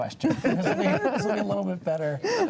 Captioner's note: panelists laughing